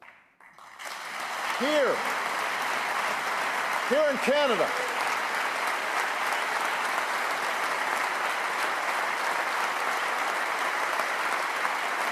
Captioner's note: applause